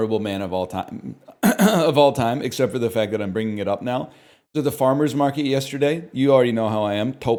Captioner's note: chokes up; clears throat